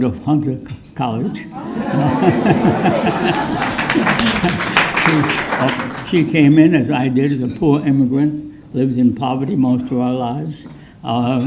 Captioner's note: applause